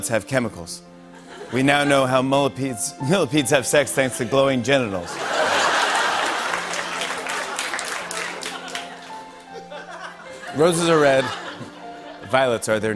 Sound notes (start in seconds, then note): 5.0 laughter and applause